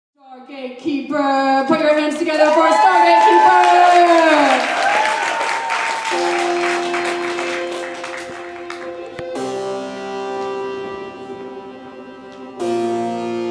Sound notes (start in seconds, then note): 3.7 audience cheering; 5.0 applause